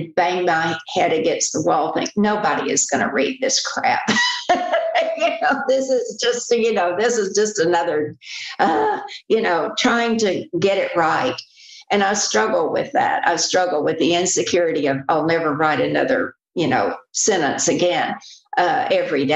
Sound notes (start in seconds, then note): 8.4 laughs